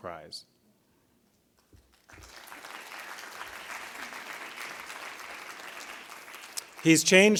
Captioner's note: applause